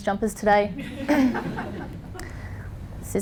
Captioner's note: laughter